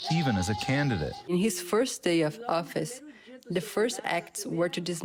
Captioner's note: through translator